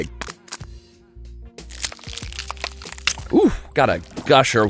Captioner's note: egg crackling